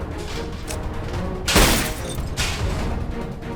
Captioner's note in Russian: бодрая, торжественная мелодия; бах; бодрая, торжественная мелодия